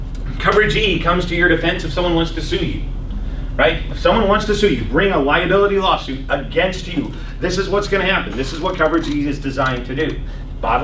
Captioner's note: laughs